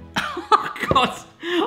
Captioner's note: laughs